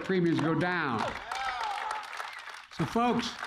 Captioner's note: applause